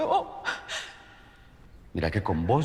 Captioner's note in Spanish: Sollozos